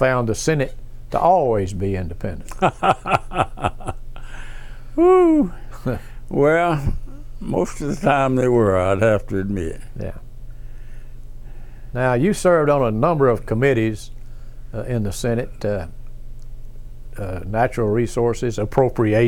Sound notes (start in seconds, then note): 2.5 laughs